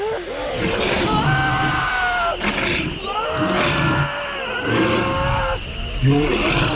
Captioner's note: animal growling; screaming